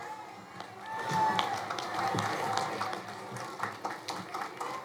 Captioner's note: crowd applauding